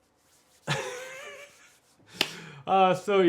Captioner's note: laughing